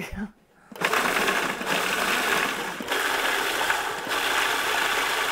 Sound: processor grinding

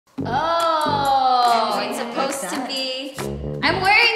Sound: laughs

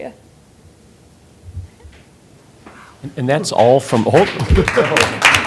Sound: applause

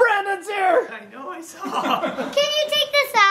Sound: laughing

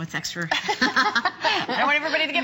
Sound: laughter

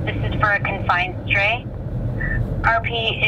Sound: dispatch Over Radio

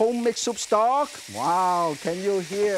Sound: food sizzling

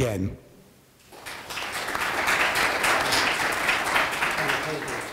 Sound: audience applauding

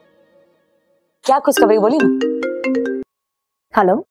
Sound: mobile phone chimes

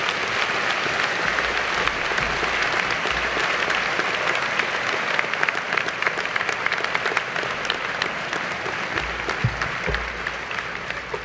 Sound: applause

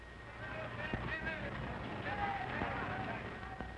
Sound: knocking

